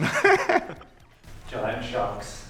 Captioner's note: laughter